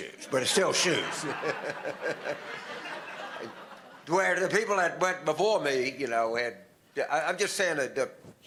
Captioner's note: audience laughter